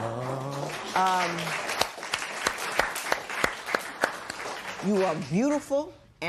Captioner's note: applause